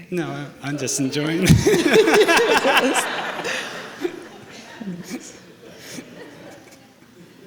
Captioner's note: laughter